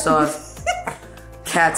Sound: laughs

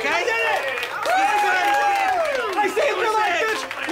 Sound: crowd applauding

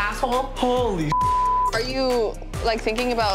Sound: beep

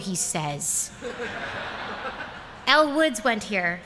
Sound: laughter

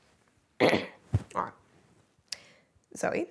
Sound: coughs

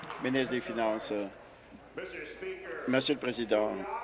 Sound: applause

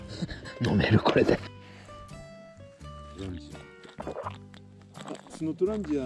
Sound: drinking sound

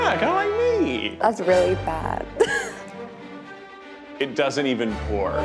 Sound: laughs

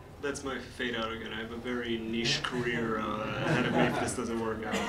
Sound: laughter

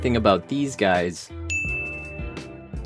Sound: ding

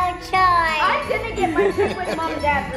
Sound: laughing

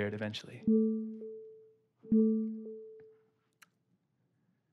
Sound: ringtone

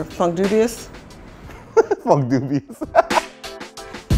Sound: laughs

